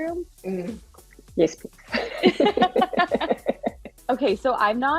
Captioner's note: chuckle